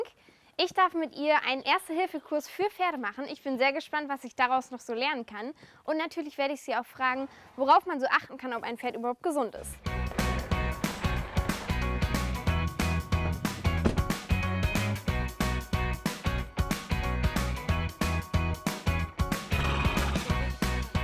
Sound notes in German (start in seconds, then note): 10.8 Heitere Musik; 19.5 Schnauben